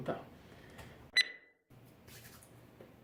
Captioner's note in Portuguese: bipe